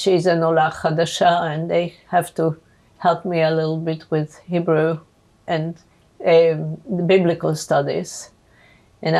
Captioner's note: hebrew